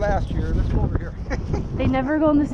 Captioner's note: laughs